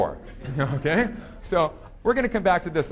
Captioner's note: audience laughing